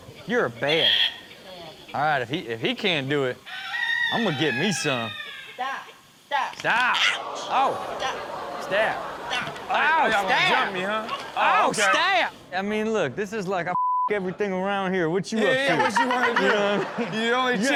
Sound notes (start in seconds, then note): 3.4 rooster crows; 6.6 audience groans; 13.7 beep; 15.4 audience laughs